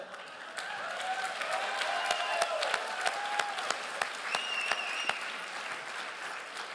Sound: crowd applauds and cheers

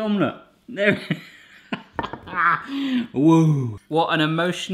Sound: laughing

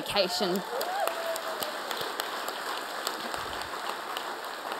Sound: audience applaud

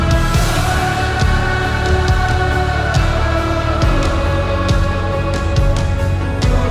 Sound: crowd

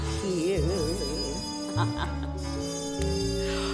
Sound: she laughs

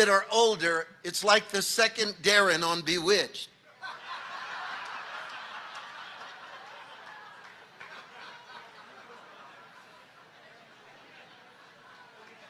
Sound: audience laughing

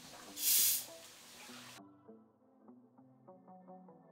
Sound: soda fizzing

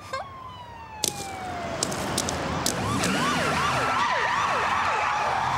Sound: sirens wailing

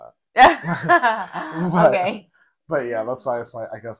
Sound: laughing

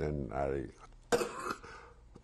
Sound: coughs

